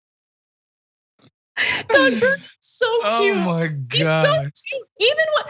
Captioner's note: laugh